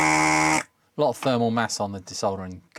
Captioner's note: buzzer